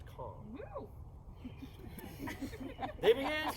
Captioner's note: someone whoops, laughter